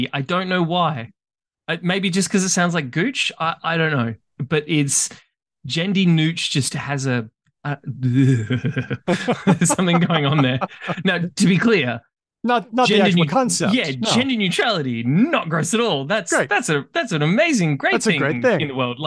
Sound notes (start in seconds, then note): 7.1 makes cringing noises